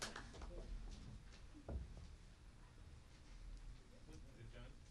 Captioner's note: faint background chatter